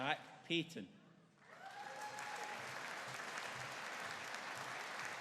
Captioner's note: audience cheering